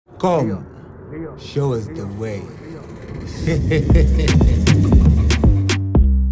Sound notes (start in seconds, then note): 1.9 laughs